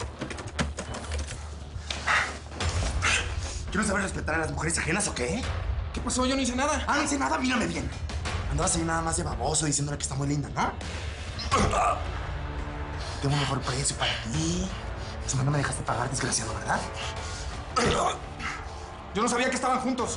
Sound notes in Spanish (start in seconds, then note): 11.4 Quejidos